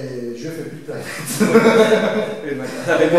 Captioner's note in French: rires